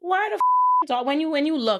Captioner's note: beep